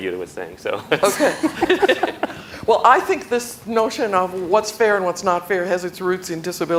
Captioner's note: laughter